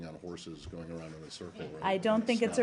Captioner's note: laughter